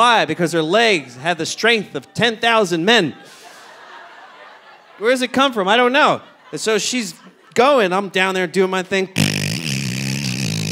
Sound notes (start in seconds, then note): 3.0 audience laughing; 9.2 trills